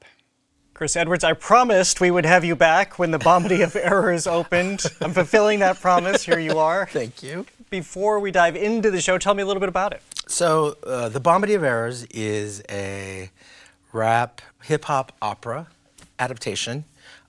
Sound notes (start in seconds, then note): 3.2 laughing